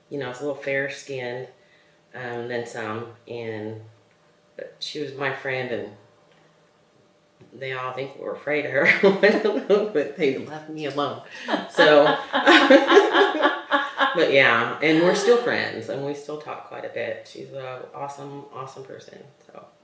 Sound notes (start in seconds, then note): 11.4 laughter; 11.4 laughs